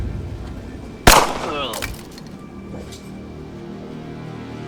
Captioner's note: gun fires